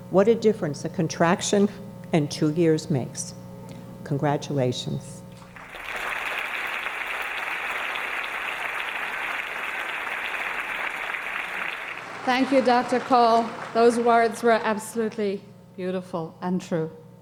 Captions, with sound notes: What a difference a contraction and two years makes. Congratulations. (audience applauding) - Thank you, Dr. Call. Those words were absolutely beautiful and true.